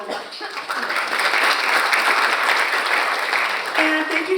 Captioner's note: audience applauds